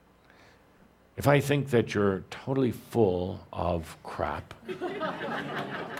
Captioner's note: laughter